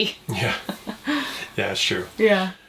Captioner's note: chuckling